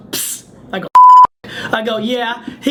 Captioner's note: beep